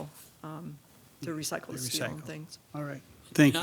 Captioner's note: overlapping chattering